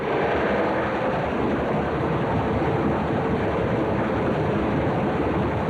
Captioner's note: aircraft engines and machine gun fire